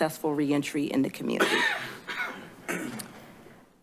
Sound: coughing in the background

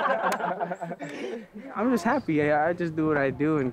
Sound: players laughing

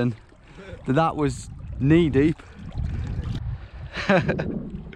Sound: laughs

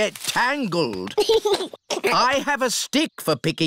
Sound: giggles

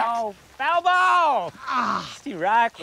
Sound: groans

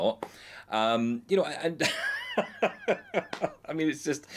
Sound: he laughs

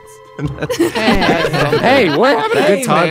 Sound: all laughing; laughs

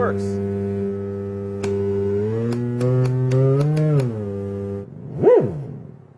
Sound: buzzing sound; frequency of buzzing sound changes as the flip is switched

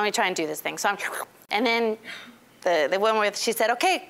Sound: slurping

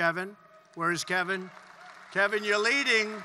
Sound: applause

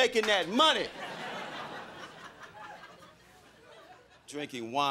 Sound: crowd laughing

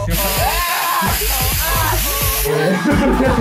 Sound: shouts; hair dryer blows; laugh

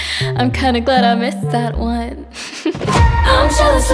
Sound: laughs

